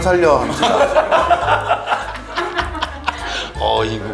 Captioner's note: hee hee hee ha ha